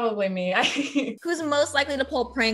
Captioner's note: chuckling